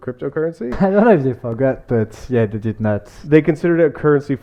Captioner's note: laughs